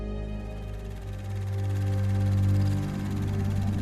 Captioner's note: film fluttering